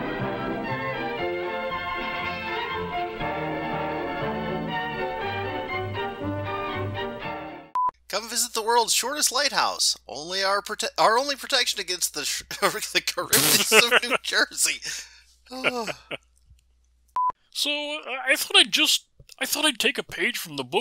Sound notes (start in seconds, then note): 13.2 Jim laughs; 13.3 laughing; 15.5 Starch sighs